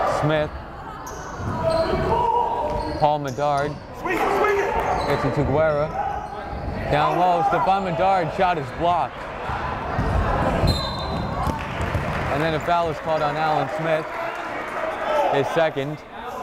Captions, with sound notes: Smith, Paul Medard, makes it to Guerra. Down low, Stephon Medard's shot is blocked. (whistle blowing) And then a foul is called on Alan Smith, his second.